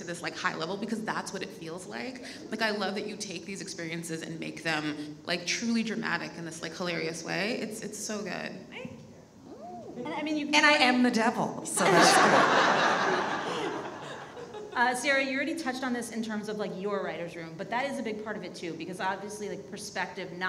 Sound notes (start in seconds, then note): 11.8 audience laughs